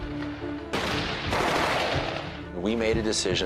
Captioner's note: gunfire bursts